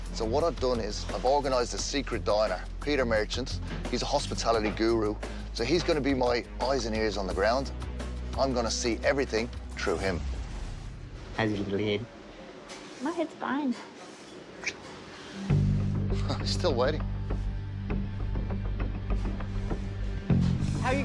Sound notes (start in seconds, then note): 14.6 kiss; 16.0 chuckles; 17.4 tense music